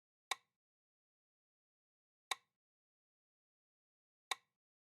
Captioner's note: metronome ticks